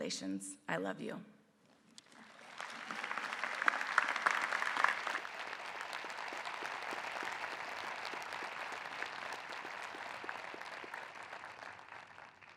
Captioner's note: applause